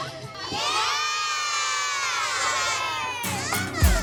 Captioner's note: all cheering